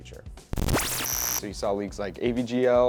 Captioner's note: distorting sound